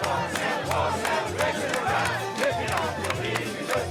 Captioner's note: crowd cheering